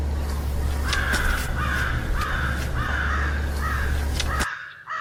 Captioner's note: crow cawing